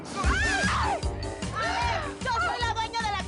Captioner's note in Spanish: Grita